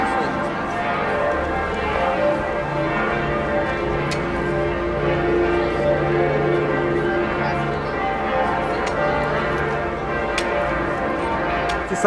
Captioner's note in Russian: звон колоколов